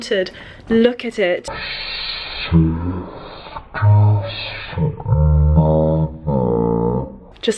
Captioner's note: distorted, slowed speech